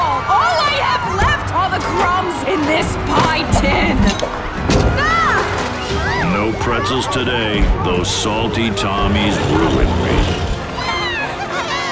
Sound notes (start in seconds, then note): 4.7 woman exclaims; 9.2 children laughing